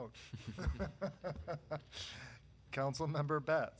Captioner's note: laughing